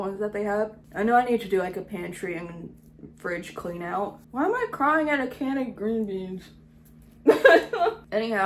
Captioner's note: laughs